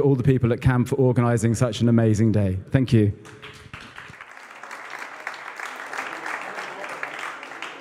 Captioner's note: applause